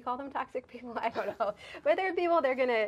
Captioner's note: laughing